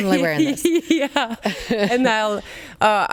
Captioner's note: laughs